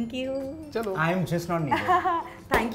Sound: chuckles

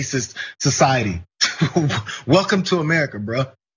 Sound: laugh

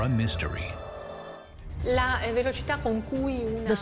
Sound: non-english speech

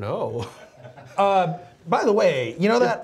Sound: laughing

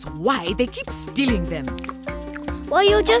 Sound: scoffing

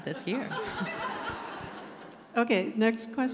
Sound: audience laughs

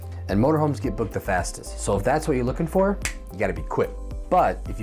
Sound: snap

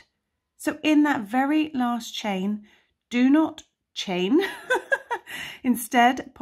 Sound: laughs

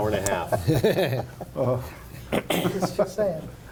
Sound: laughing

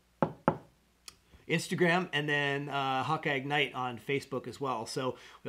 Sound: knocks table

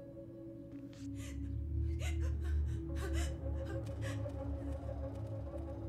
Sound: contained sobbing

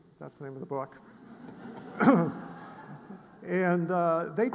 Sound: audience laughs

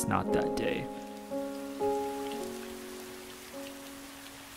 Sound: rain falling

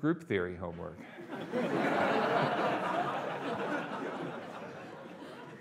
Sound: audience laughing

